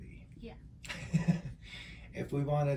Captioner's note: laughs